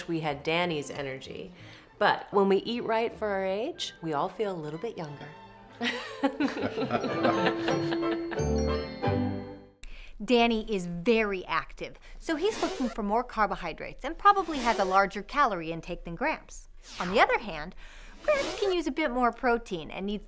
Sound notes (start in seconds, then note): 5.8 laughing